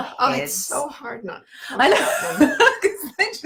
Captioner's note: laughing